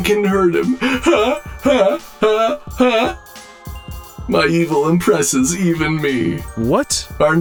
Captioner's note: robotic laugh